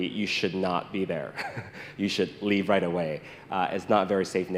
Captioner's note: chuckles